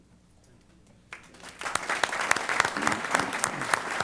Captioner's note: applause